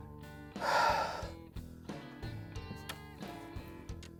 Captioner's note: sighing